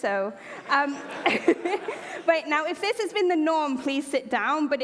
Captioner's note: laughter